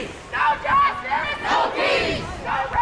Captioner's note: crowd